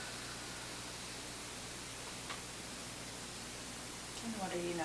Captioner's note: exhaling